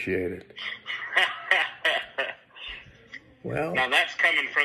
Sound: seller laughing

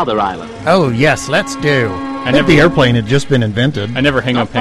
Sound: mocking narrator voice

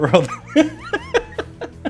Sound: laughing

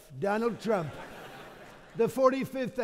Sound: audience laughing

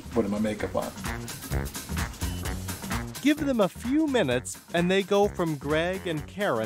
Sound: voiceover

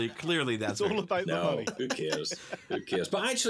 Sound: laughs

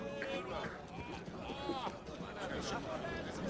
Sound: indistinct chatter

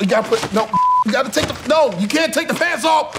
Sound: beep

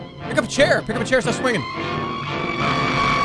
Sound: bat shrieks

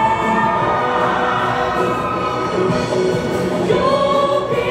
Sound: cheers and applause

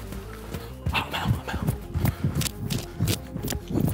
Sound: panting

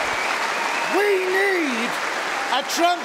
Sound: cheering & Applause

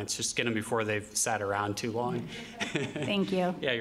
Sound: laughter

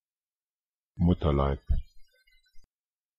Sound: fast Pronunciation

